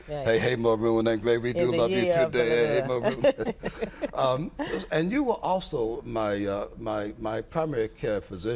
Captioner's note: chanting slogan